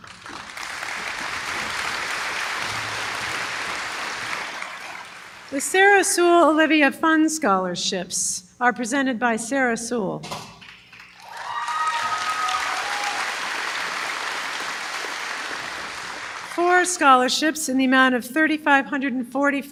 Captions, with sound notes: [applause] The Sarah Sewell Olivia Fund scholarships are presented by Sarah Sewell. [applause] Four scholarships in the amount of $3,545